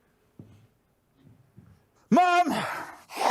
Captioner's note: sniffing